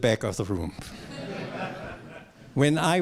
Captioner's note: laughter